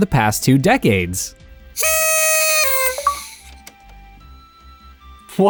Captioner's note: blows on a party whistle